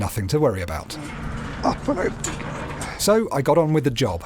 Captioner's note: mumbled under breath